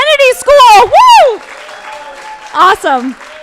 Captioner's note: crowd clapping and cheering